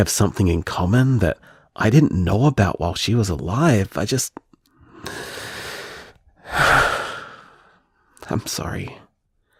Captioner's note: tearful breath